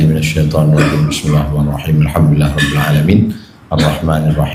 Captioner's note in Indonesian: berdehem; tertawa